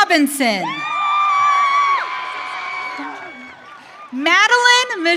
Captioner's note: audience cheering